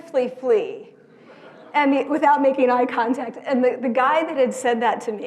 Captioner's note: laugh